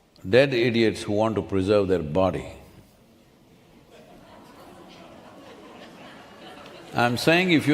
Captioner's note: few laugh